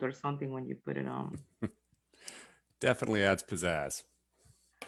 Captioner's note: chuckles